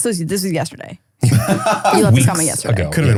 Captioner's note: laughs